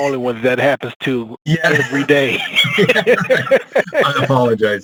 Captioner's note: laughs